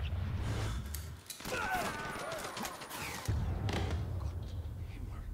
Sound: gunfire

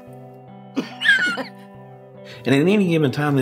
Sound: laughing

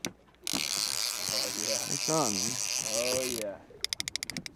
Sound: reel spinning

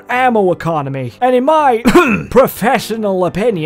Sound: clears throat

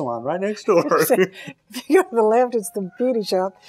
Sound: laughs

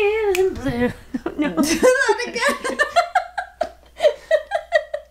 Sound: laughs loudly

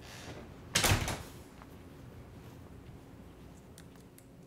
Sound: door closes

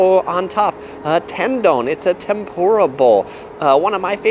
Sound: speaks in foreign language

